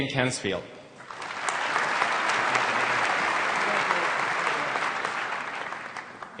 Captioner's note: applause